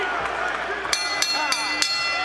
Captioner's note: bell rings